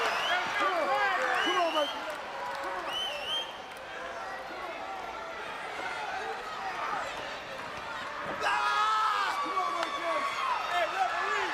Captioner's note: crowd chatter